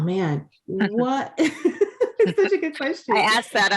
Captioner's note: laughs